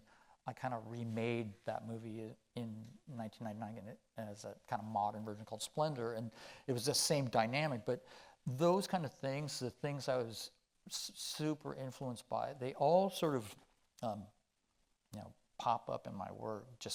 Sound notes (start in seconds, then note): none